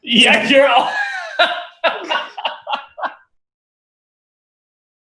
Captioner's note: laughter